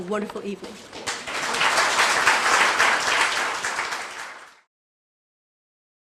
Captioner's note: applause